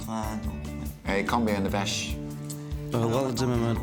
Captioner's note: speaks french